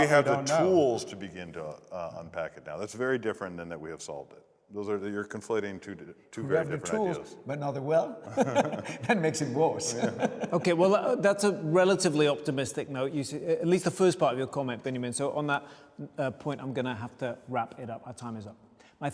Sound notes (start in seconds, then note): 8.2 laughing